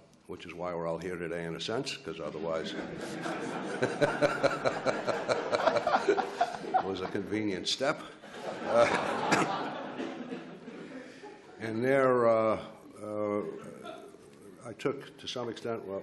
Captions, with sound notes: which is why we're all here today in a sense, 'cause otherwise-- (laughs) it was a convenient step. (laughs) And there I took to some extent what I'd learned